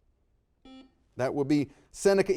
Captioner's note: buzzer dings